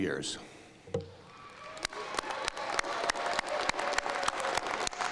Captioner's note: cheering and applause